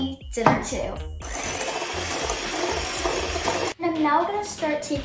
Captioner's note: mixer whirs